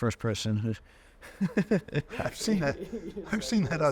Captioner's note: chuckling